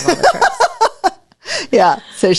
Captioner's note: laughs